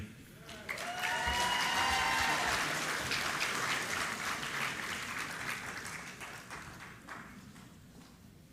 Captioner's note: applause